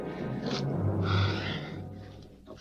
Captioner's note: brooding orchestral music; Lin sighs